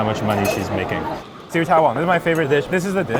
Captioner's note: speaks in foreign language